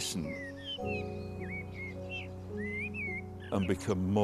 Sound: bird singing

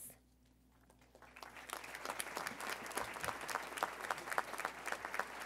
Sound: audience applauding

